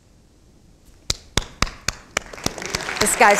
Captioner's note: crowd applauding